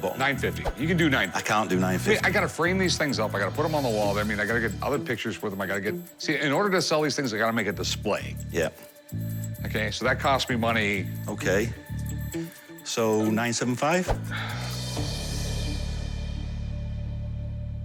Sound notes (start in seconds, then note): 14.2 sighs